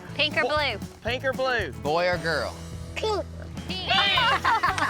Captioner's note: laughter